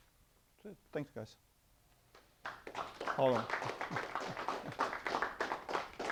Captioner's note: audience applause